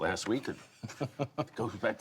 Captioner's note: laughter